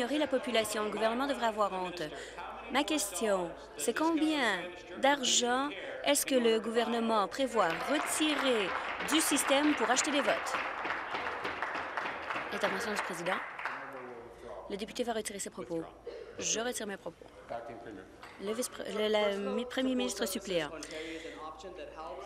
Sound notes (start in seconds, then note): 10.0 applause